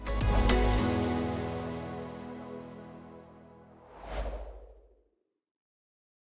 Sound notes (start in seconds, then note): 0.0 calm music; 3.8 air whooshes